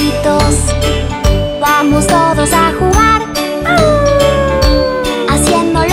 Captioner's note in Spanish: Aullido